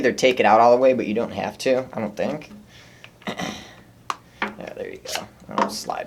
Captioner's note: clears throat